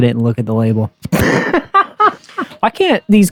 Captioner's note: hysterical laughter